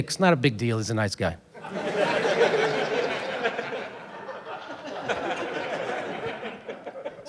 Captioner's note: laughter